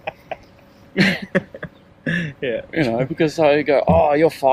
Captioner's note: laughing